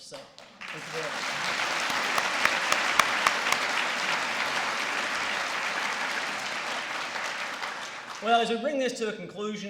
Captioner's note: applause